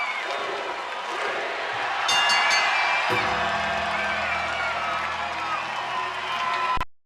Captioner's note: bell ringing